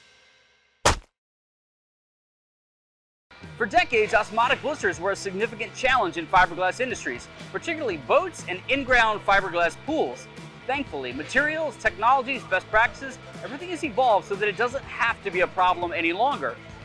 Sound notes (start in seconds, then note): 0.8 thud